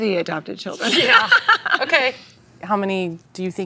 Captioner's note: laughs